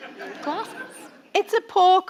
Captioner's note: audience laughing